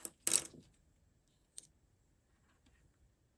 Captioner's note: pieces clinking